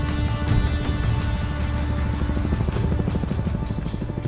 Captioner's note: helicopter whirring